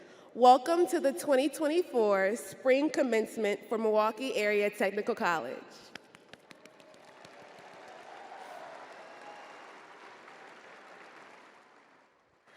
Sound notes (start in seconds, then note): 6.1 crowd applauding